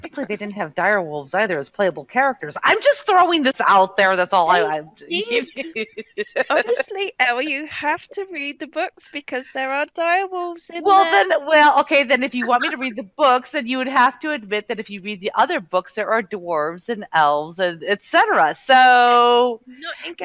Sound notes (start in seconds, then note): 4.5 laughing